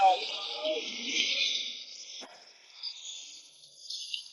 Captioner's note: spectator laughing; breathing heavily